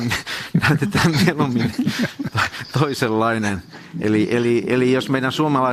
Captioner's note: naurua